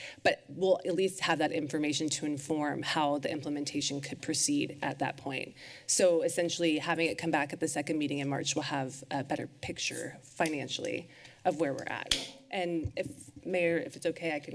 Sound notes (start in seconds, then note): none